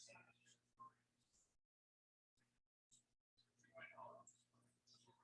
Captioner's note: people chattering indistinctly